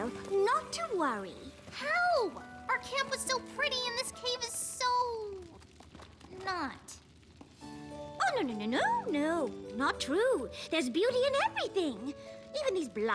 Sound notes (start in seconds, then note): 5.5 flames crackling